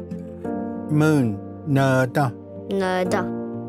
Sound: repeats in Cherokee

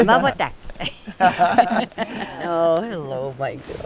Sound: all three laugh

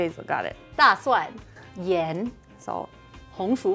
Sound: speaking in mandarin

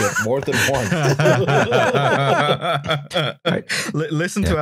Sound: laughter

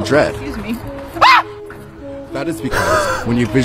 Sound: woman screams

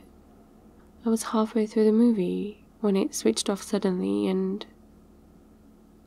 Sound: trails off

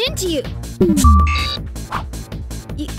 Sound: beeps

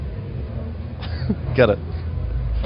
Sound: laughs

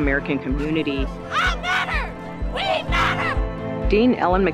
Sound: chanting

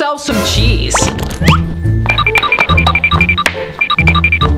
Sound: tapping

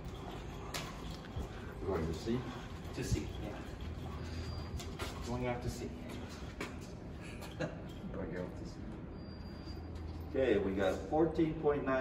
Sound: laugh

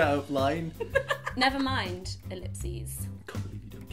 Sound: laughing

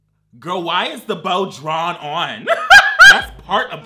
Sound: laughs

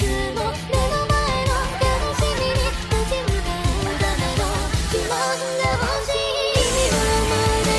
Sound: laughing

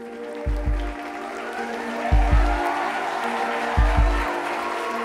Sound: audience applause

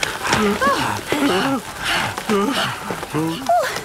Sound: all groaning and panting; barking, squeaking, bleating

